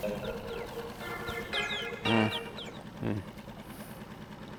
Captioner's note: cellphone ringing